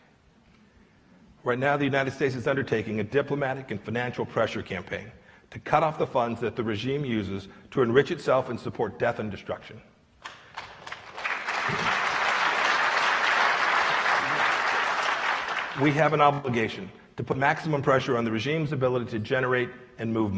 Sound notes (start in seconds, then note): 10.3 applause